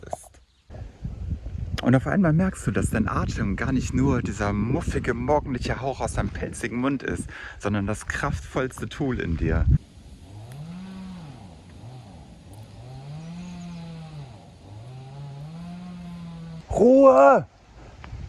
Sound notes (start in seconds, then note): 11.4 chainsaw